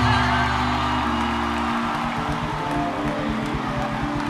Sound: audience cheers

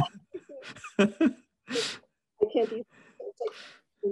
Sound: laughs

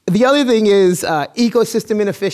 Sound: none

